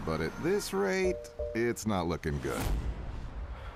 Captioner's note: low fuel signal chime